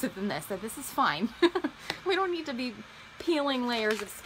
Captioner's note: laughs